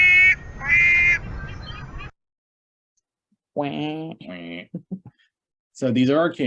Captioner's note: gulls calling; imitate the gull call